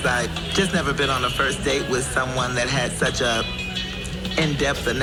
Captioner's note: none